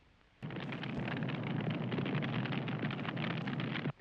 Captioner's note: fire crackling